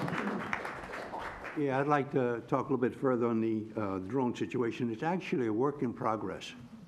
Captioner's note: applause